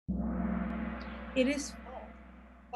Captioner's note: gong